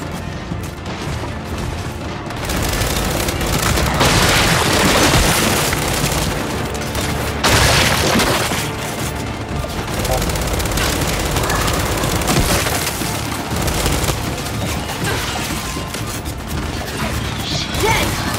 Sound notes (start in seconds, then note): 3.9 gun fires